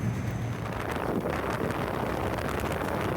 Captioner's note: wind against camera